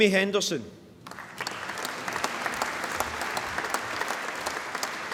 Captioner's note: applause